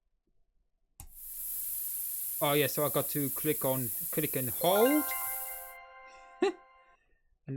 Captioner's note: spray sound